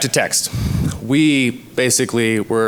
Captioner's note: sighs